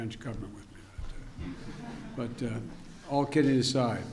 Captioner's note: laughter